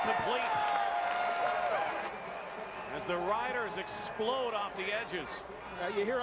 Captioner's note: cheering and applause